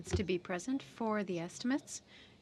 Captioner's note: speaking french